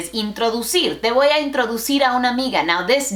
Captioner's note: Spanglish